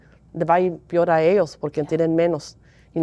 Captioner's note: Spanish